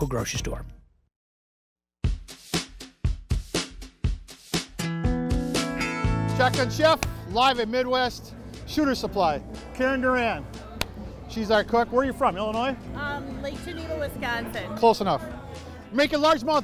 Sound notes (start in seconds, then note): none